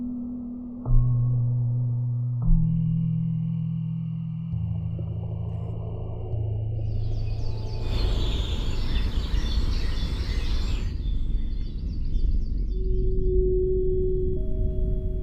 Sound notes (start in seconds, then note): 6.9 birds chirping